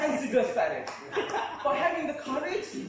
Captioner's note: laughter